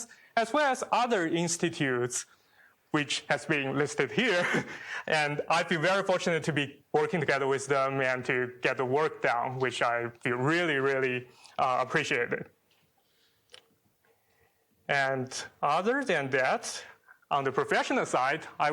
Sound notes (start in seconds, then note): 4.3 chuckles